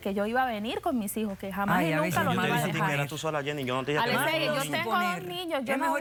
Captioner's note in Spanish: Hablan al unísono